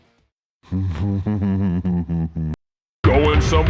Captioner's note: Jarek chuckles